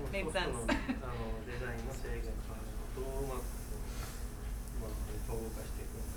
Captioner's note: speaking in foreign language